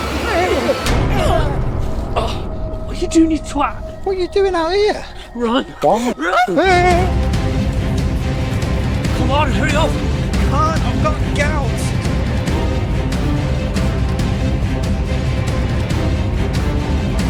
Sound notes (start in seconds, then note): 0.1 both grunting; 8.3 dramatic music; 14.5 intense music